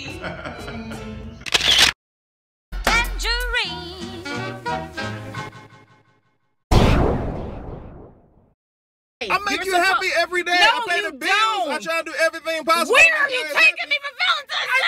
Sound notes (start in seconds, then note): 0.0 chuckling; 1.4 photo shutter snaps